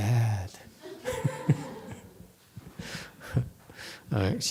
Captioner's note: laughs